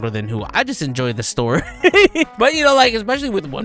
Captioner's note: laughs